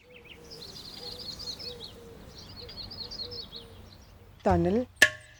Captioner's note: birds chirping